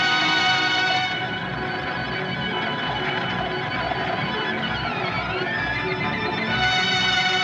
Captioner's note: wind Whistling, Blowing